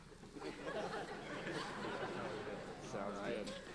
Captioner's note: audience laughing